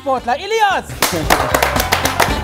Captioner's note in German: Jubel, Applaus